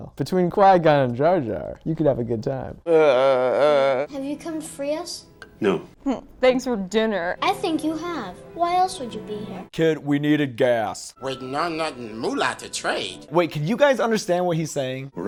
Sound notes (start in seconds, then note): 2.8 groans